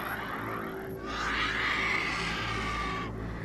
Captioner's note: angry screeching